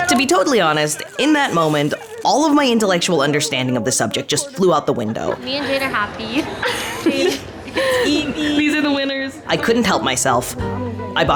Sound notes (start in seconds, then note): 6.8 friends laughing